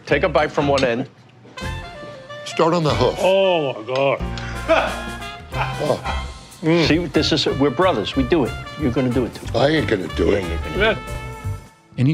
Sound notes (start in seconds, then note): 4.4 producer laughs